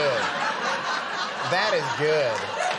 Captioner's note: audience laughing